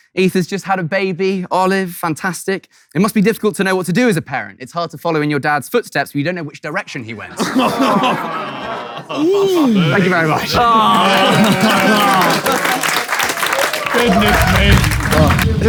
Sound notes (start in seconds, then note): 7.2 people in room laughing and groaning; 10.4 people in room applauding